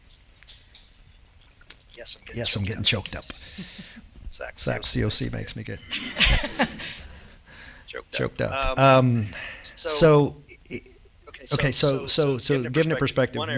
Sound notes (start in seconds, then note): 5.8 chuckles